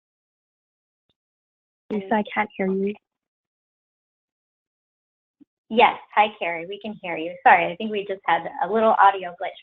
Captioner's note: audio glitch